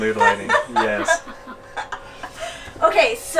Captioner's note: laughing